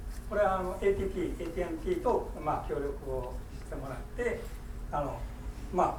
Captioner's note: speaking in foreign language